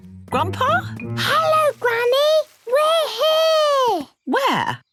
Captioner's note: Peppa whispering